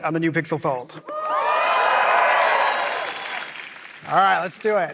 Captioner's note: applause